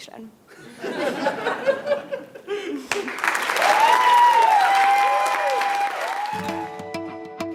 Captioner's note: applause; laugh